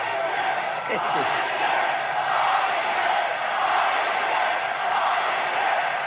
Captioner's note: crowd